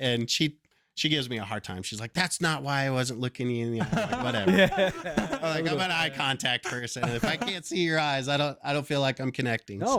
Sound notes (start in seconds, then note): 5.4 laughter